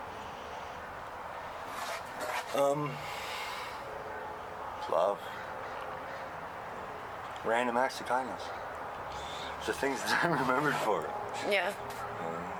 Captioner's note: laughs